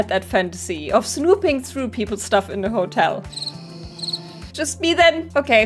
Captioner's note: crickets